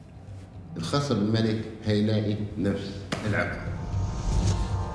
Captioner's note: in Arabic